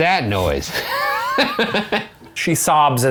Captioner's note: laughs